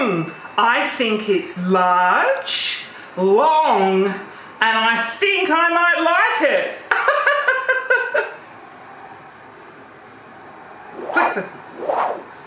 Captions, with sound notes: I think it's large, long, and I think I might like it. (laughs)